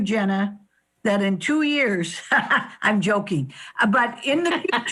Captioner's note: laughs